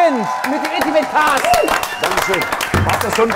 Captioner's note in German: Jubel, Applaus